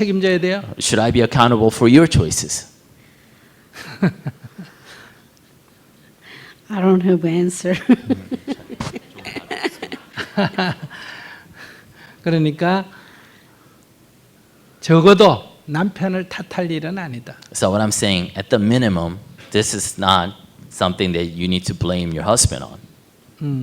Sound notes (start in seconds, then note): 3.8 Sunim laughter; 7.7 questioner laughter; 10.2 Sunim laughter